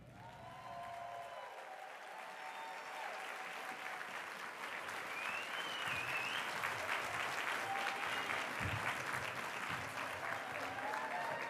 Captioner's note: applause